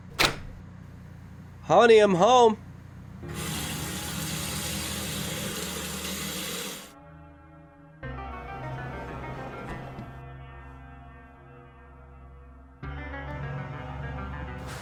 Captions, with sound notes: - Honey, I'm home. (tap water rushes) (tense music)